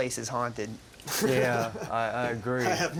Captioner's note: chuckles